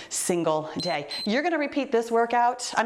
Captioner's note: timer beeps